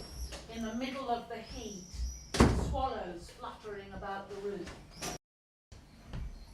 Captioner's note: birds screeching